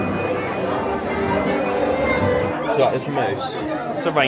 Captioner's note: people chatter